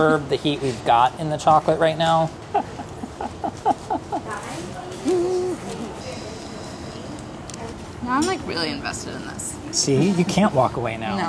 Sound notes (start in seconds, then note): 2.3 chuckles; 6.5 blows